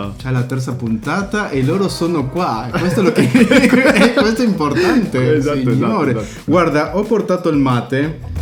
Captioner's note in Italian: risate